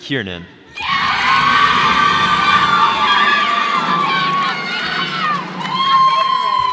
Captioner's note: cheers and applause